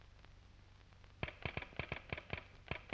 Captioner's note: telegraph tapping